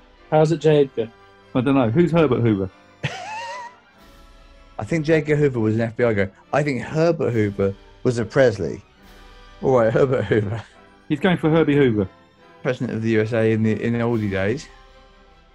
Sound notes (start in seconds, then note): 3.0 laughing